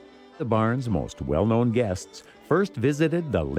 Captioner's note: voiceover